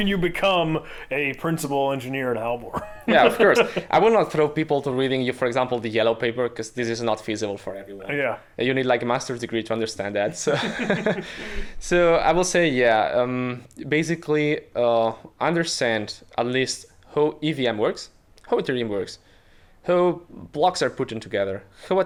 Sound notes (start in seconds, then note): 2.6 laughing; 10.4 chuckling